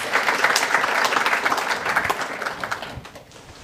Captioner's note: applause